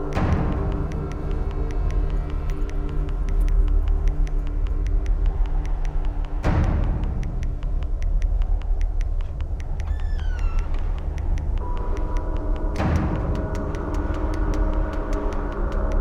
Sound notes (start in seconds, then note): 0.1 suspenseful music continues; 9.8 door creaks; 12.8 suspenseful music